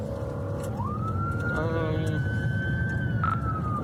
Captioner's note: siren wailing